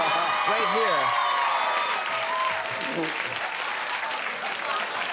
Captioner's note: audience cheering